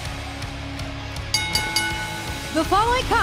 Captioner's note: bell ringing